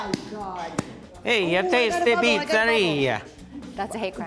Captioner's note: with italian accent